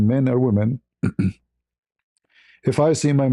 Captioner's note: berdehem